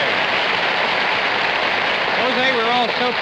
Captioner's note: audience applauding